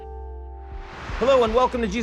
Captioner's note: air whooshing